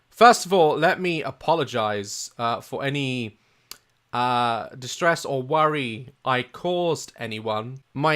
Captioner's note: clicks tongue